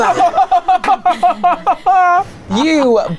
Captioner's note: laughing loudly